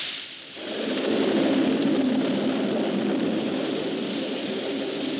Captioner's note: thunder